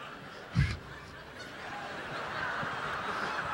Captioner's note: audience laughing; Don laughing